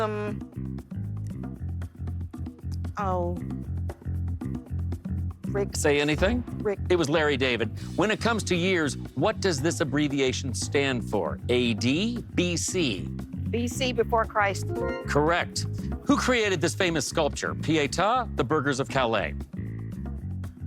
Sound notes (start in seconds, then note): 5.5 bass note; 14.6 bright chime